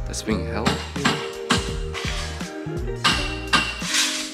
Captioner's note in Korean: 꽝꽝 소리